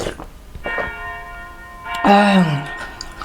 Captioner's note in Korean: 교회 종 소리